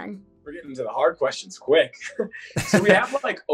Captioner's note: chuckles